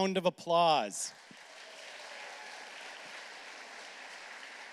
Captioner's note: applause